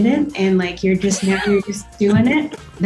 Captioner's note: laughter